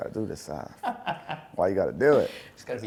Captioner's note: laughs